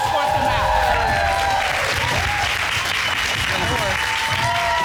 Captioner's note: applause